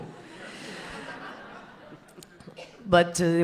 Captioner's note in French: rires